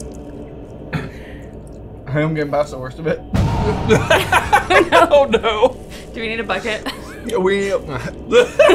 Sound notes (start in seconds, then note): 3.6 ominous music; 4.0 laughing